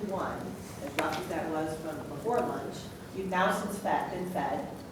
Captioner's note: voice muffled